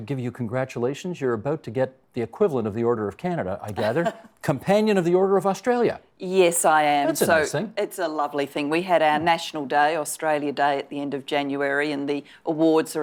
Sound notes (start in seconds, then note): 3.7 chuckling